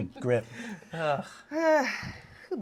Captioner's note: sighs